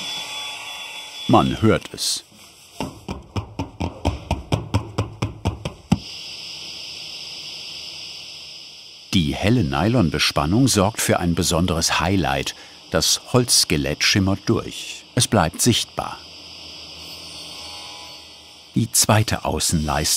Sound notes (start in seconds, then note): 3.0 dull noise; 6.2 motor hum